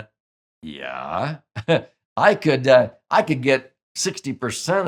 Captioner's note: chuckles